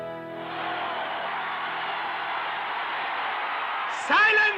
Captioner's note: crowd shouting